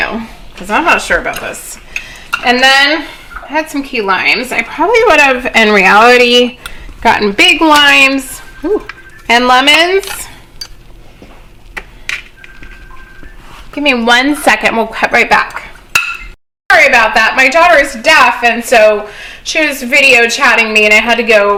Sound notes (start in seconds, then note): 7.8 hear phone ringing